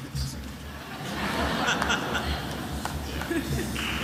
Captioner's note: attendees laughing